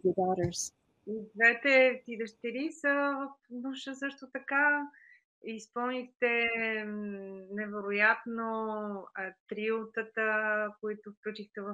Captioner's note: foreign Language Spoken